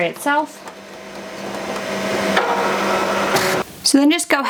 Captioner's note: printer whirring